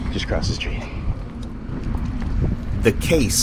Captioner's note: street noise